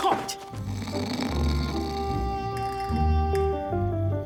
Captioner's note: snoring